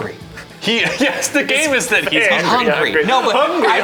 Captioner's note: laughing